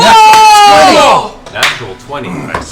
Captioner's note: cheering